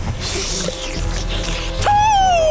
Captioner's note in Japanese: 口をなめる音